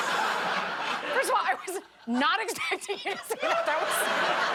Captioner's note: laughter